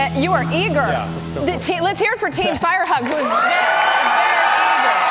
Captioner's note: cheers and applause